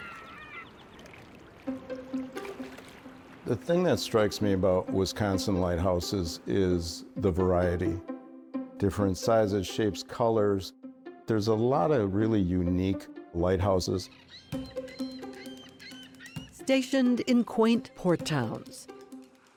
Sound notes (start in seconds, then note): 0.2 playful, rhythmic strings; 13.6 bird calling